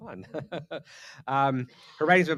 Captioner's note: laughs